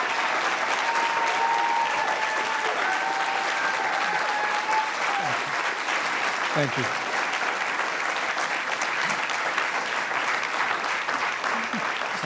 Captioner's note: cheers and applause